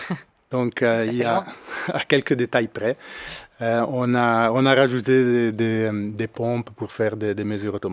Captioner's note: laughing